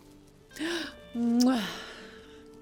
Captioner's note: kiss